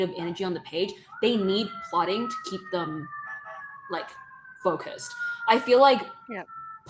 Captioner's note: sirens sounding in the background